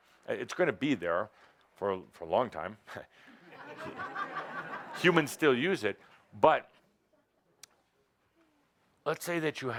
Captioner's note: laughter